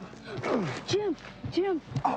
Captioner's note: Jim groaning